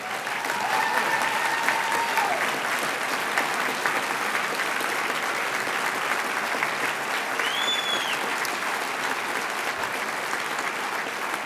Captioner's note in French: Applaudissements et acclamations